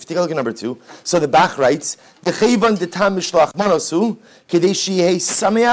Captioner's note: Hebrew